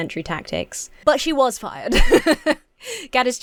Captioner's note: laughs